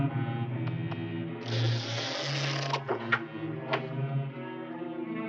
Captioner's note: door creaking; suspenseful orchestral music continues